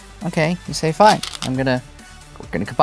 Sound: stones rattling

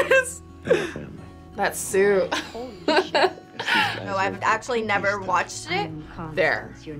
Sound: laughs

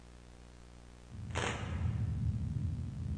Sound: camera shutter opens

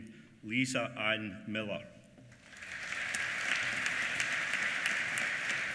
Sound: applause

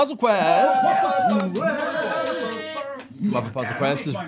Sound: cheering

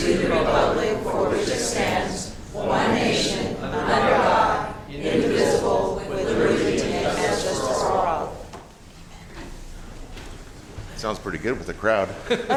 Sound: reciting the pledge of allegiance

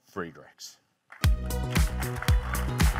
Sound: audience clapping; bright music

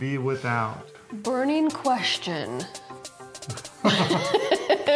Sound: laughing

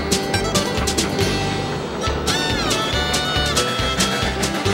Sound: train chugging

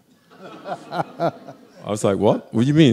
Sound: audience laughing

